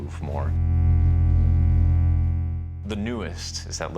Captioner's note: low-frequency tone